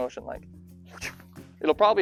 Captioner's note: swoosh